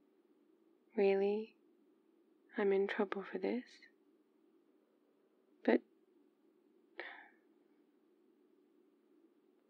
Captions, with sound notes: really? I'm in trouble for this? but- *sighs*